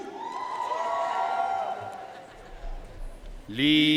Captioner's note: audience cheering and applauding